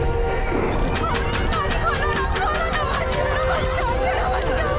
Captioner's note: banging